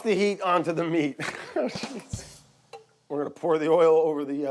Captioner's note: laughing, joke effect drums